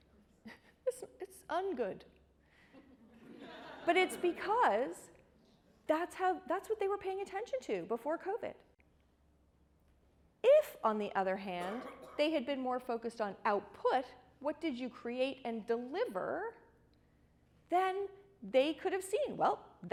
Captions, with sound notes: It's un-good. (audience laughs) But it's because that's what they were paying attention to before Covid. IF on the other hand, they had been more focused on output, what did you create and deliver, then they could have seen, well,